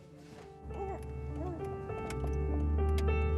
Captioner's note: baby coos; gloomy piano music